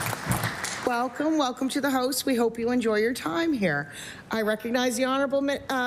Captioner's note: applause